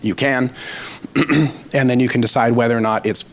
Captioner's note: clears throat